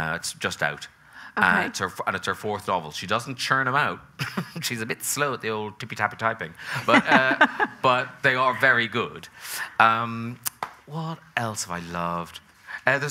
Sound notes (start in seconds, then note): 4.2 chuckles; 6.8 laughing